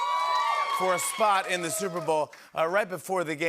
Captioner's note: cheering and applause